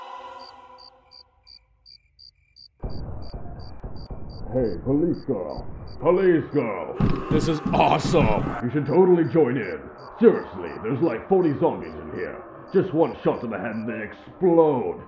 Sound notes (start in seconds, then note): 0.3 crickets; 2.1 crickets and gunfire; 7.2 ghouls groaning